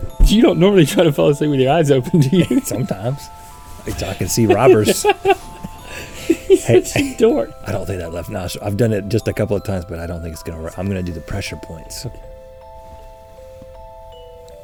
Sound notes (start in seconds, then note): 3.8 Link laughing